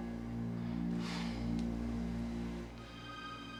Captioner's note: sighs